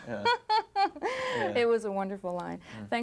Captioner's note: reporter laughing